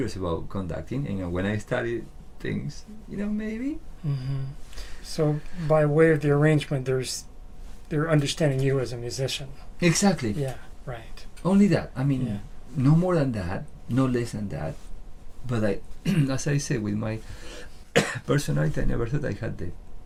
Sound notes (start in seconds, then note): 17.9 cough